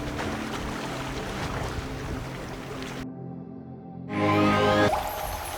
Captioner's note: water lapping; bright electronic music